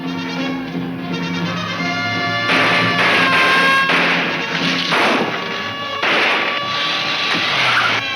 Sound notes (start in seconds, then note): 0.3 siren blaring; 2.4 guns firing